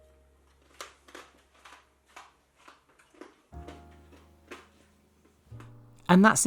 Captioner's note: loud crunching